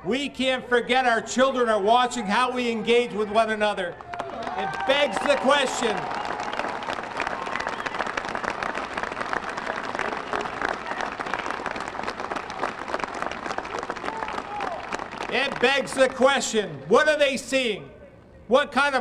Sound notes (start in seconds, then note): 10.8 applause